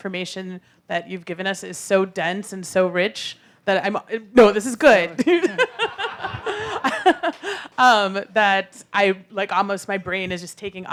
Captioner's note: laughter